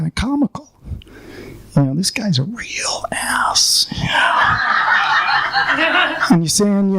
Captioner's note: laughing